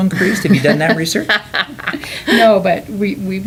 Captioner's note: laughter